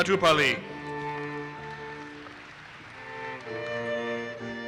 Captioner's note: audience applauses